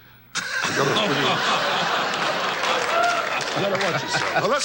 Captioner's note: audience laughs